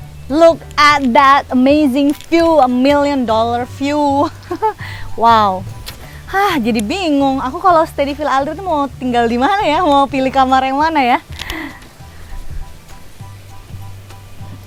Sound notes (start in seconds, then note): 11.3 laugh